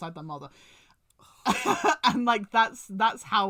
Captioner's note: laughs